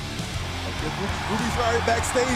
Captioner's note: crowd cheering